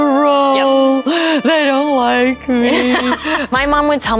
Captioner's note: laughing